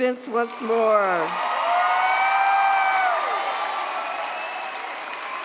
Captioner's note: audience cheers